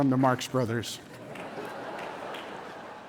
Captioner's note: audience chuckling